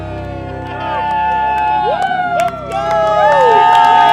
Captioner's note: uplifting music; group cheering